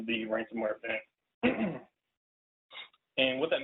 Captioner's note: clears throat